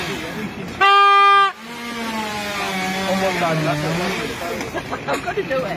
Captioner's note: honking